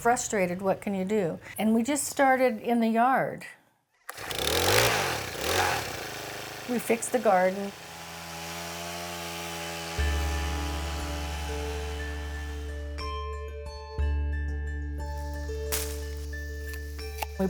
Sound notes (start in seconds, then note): 6.3 garden tiller starting; 16.7 mellow music